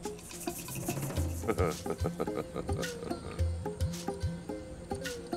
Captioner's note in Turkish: Gülme sesi